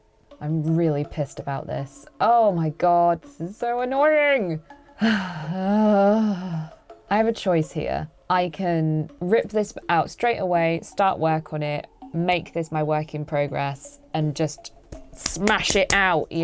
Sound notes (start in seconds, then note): 5.0 sighs; 15.2 claps hands together